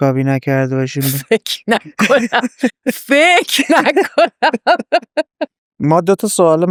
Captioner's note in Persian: خنده